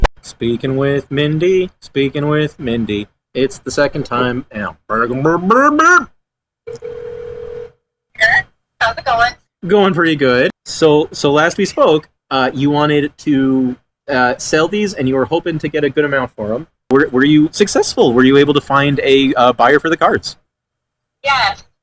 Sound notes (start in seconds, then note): 6.6 phone rings